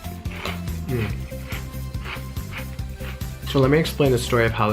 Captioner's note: crunching